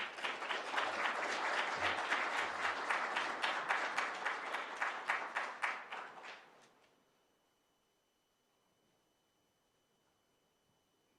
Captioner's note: applause